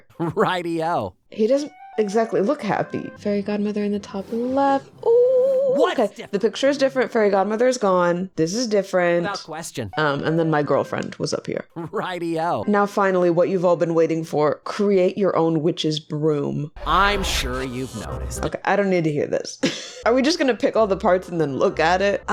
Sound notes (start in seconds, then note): 19.6 laughs